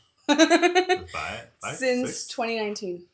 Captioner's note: laughing